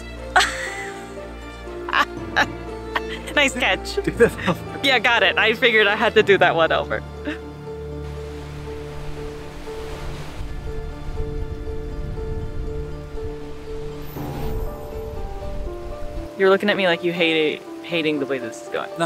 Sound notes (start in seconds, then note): 0.4 laughs; 7.1 background music; 8.0 waves crashing sound